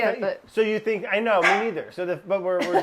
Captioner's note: dog barking